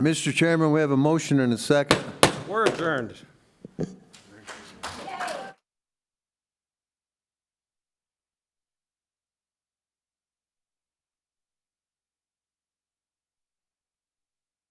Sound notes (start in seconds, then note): 3.8 gavel knocking